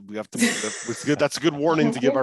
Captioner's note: laughs